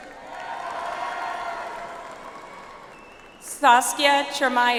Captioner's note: audience applauds